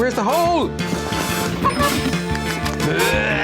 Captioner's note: screams